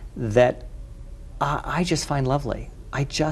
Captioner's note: none